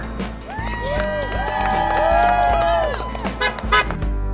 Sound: cheering

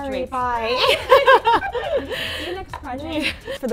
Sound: laughing

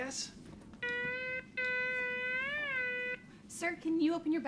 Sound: scanner beeps angrily

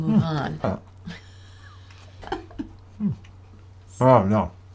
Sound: laughing

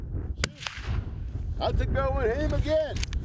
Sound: gunshot

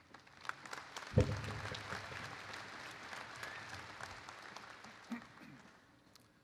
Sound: applause

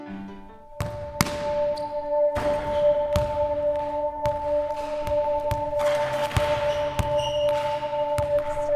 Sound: dribbling

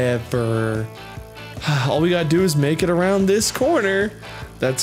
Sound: sigh

